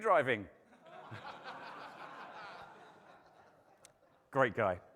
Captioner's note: audience laughing